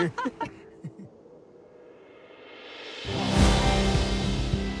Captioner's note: laughing; cymbals glistening